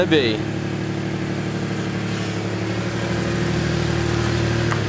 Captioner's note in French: Son moteur de la Mazda B-3000 en marche arrière